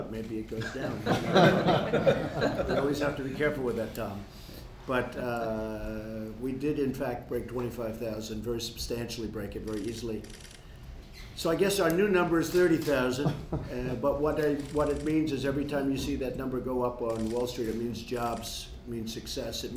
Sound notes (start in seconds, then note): 0.6 laughter; 13.2 laughter